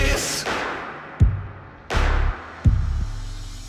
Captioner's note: sharp rhythmic clapping